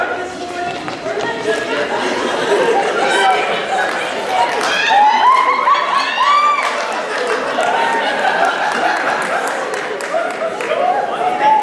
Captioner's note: adachi continues rambling insults